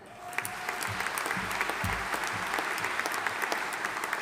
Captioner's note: audience applauding